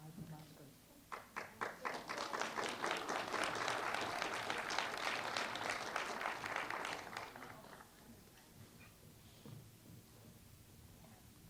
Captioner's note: applause